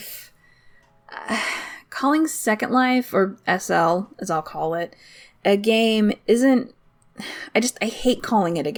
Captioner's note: sigh